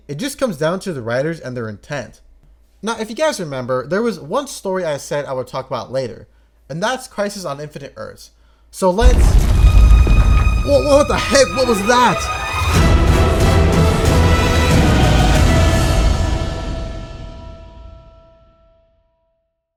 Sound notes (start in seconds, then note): 9.0 earthquake and Crashes